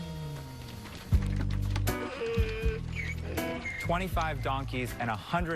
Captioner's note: donkey braying